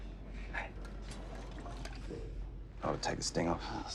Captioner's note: liquid sloshing